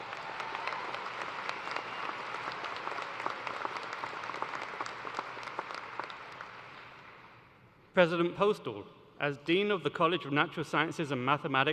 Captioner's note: cheers and applause